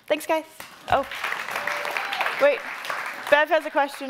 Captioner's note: audience applauding